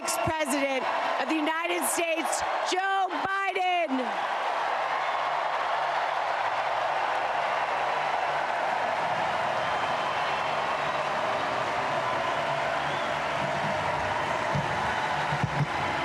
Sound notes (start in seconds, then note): 1.1 applause